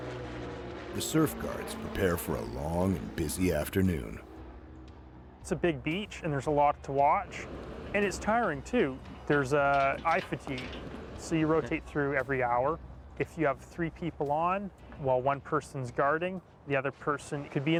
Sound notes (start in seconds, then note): 4.2 voiceover